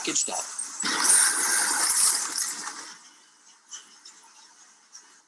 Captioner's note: bottles rustling